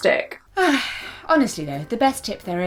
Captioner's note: sighing